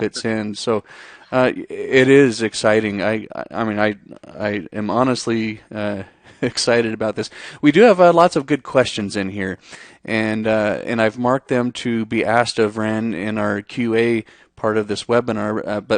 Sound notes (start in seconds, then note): 6.2 chuckles